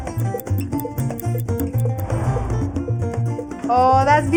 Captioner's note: ticking